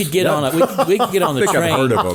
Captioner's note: laughing